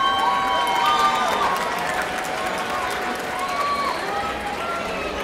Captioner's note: audience applauding